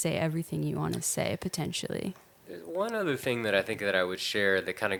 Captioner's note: none